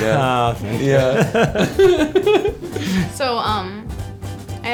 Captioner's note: Nick and John laughing